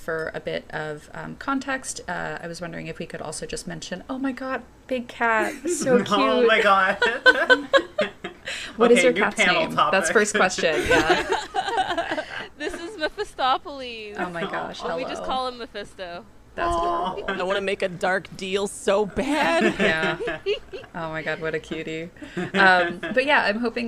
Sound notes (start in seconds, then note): 10.1 laughter